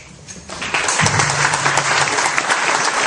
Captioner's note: applause